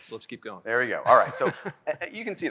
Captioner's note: laughs